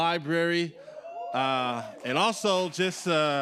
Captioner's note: audience cheering